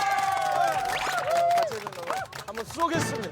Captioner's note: cheer